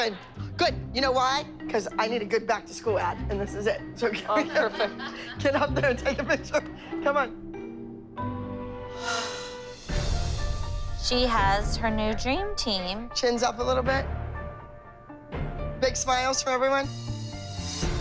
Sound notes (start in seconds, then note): 4.1 laughing; 8.9 sighs